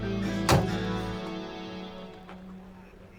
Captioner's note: door closes